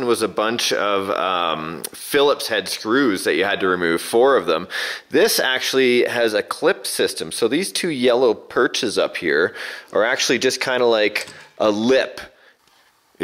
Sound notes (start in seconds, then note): none